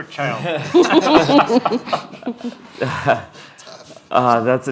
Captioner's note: audience laughing